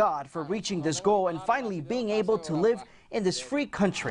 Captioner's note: speaking in spanish